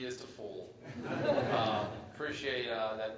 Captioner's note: laugh